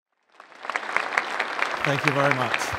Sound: audience applauding

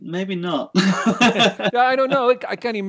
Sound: laughs

